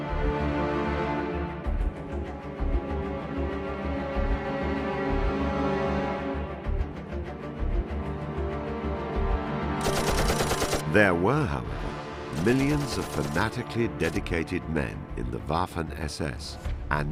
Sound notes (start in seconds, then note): 0.3 stirring dramatic music; 9.8 machine gun blasting